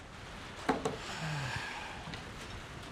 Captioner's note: sighs